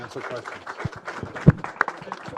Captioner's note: applause